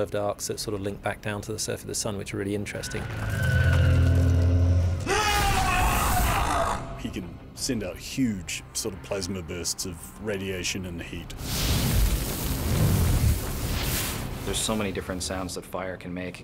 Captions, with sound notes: that sort of link back down to the surface of the sun, which are really interesting. (GROWLING) (YELLING) He can send out huge sort of plasma bursts of radiation and the heat. (FLAMES HISSING) There's so many different sounds that fire can make.